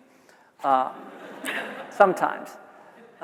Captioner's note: audience laughs